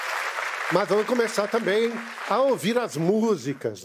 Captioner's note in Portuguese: aplausos